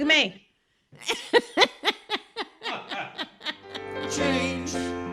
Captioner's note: woman and man laughing; outro music